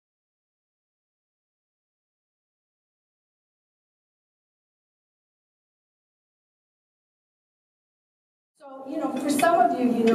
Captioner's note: silence